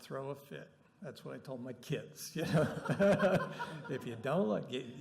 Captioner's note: laughter